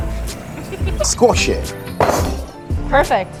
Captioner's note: mallet thudding